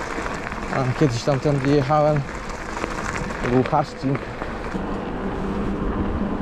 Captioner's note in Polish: Aplauz